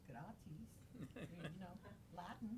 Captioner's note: laughing